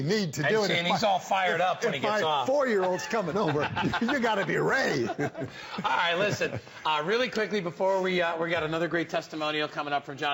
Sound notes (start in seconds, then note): 6.5 laughter